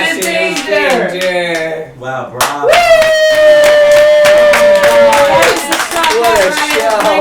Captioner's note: claps